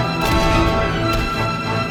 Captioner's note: classical music picks up dramatically; revolver fired X2; revolver fired